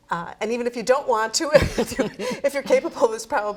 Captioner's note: laughs